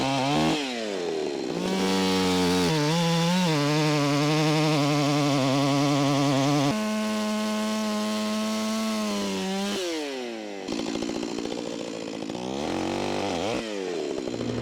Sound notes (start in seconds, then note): 6.4 chainsaw buzzing continues